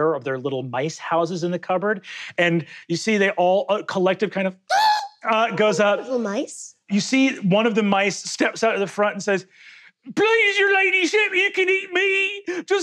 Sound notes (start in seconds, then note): 4.7 screeching